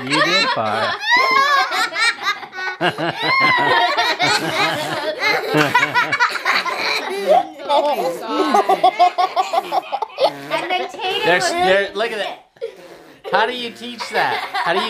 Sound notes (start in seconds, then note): 3.1 laughing; 4.4 blowing; 4.4 laughing